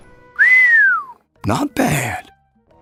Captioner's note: whistles